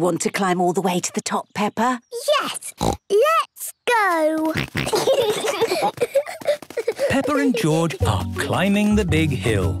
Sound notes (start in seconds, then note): 2.7 snorts; 4.5 snorting, giggling